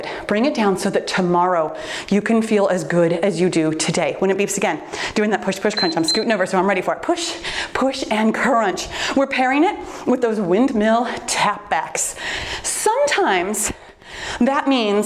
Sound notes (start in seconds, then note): 5.7 timer beeps